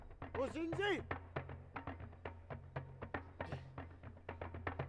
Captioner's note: prisoner shouts in German